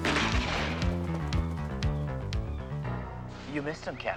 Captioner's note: gun firing